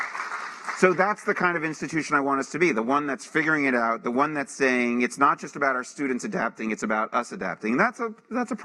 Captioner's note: applause